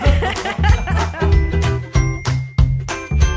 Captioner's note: both laughing; light music